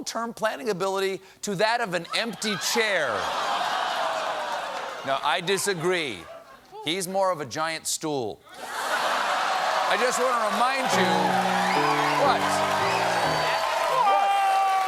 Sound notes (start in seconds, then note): 5.2 laughter; 8.6 laughter; 9.0 applause